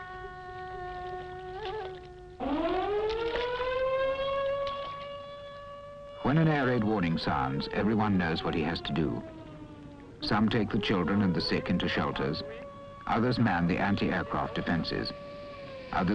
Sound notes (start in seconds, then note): 3.1 alarms blaring